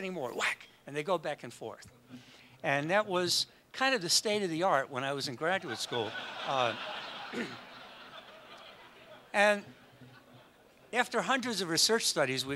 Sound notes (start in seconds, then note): 5.5 audience laughs